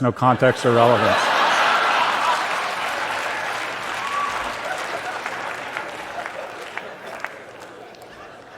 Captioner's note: laughter and cheers